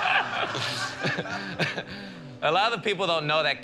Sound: laughter

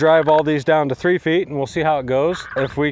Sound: digital clicking

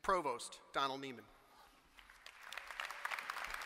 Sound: applause

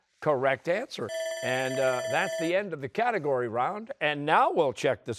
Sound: bell rings

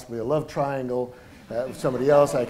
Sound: laughter

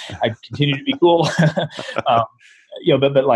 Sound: laughter

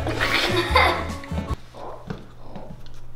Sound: laugher

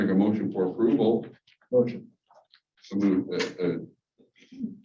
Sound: none

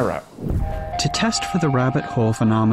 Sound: air whooshes

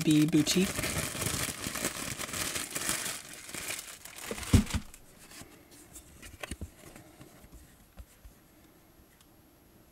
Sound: paper crinkling, movement

